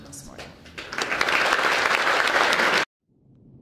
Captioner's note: applause